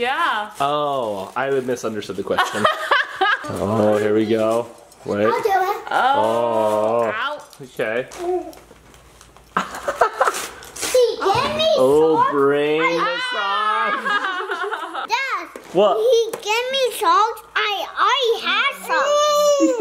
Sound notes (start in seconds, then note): 2.5 laughs; 9.6 laughs